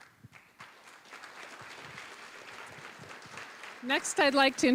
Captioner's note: applause